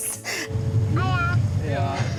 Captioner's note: laughing